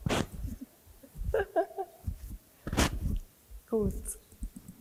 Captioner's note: laughs